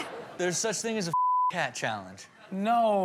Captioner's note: beep